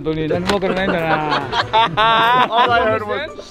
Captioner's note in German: Gelächter